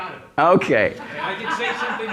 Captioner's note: laugh